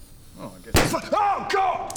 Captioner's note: pop!!